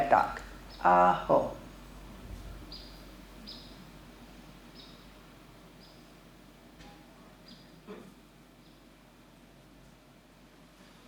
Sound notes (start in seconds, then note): 2.8 birds chirping